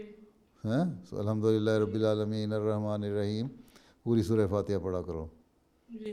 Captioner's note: Arabic